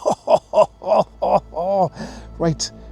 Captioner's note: grunting